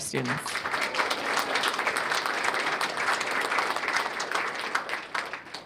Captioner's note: applause